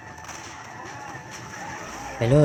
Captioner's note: sounds of gunfire and zombies